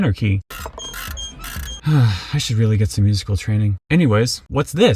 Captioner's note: sigh